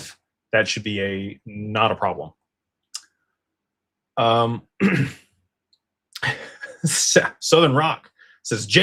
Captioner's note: clears throat